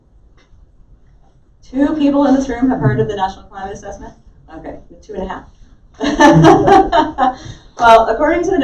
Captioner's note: laughter